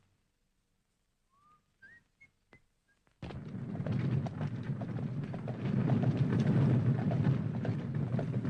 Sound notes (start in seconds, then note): 1.2 Harry whistles